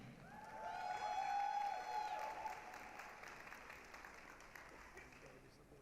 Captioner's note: applause, cheering